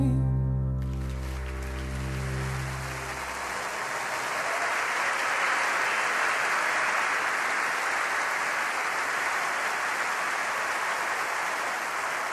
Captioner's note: applause